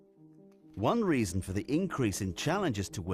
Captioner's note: voiceover